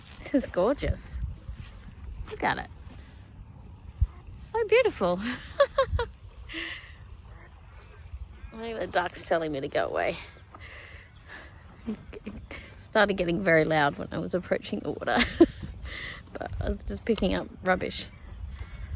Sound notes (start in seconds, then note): 5.3 chuckles with joy; 15.1 chuckles